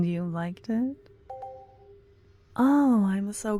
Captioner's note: positive sounding chime in the distance